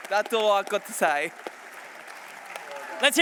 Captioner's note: applause